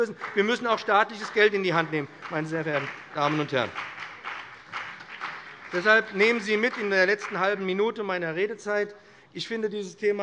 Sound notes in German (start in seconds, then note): 3.7 Beifall BÜNDNIS 90/DIE GRÜNEN